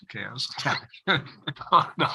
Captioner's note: laughter